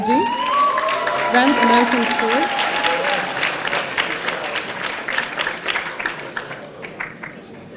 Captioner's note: audience applauding